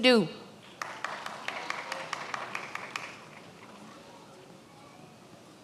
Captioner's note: many applauding